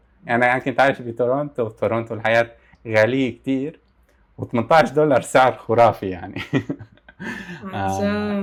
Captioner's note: laughs